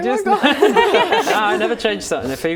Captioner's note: laughing